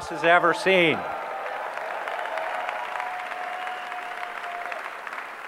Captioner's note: audience cheering